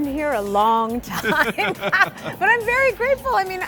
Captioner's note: laughing